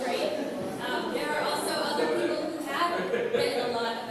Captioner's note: laughter